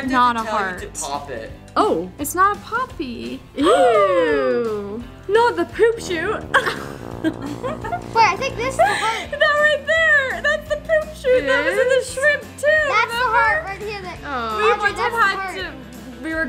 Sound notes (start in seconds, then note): 5.8 farting; 6.1 laughing